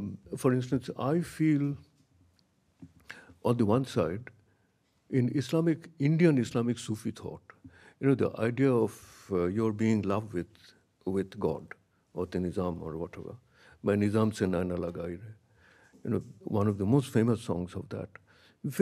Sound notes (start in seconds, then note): 14.0 speaks in a foreign language